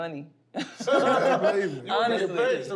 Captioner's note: laughter